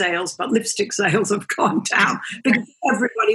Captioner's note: laughs